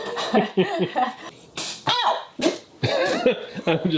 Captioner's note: chuckling; Command strip snapping; laughing